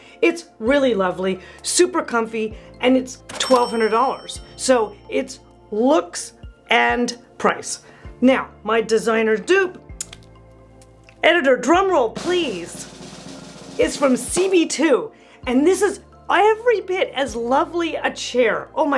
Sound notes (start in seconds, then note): 3.3 bell rings; 12.1 drum rolls